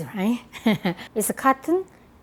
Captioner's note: laughs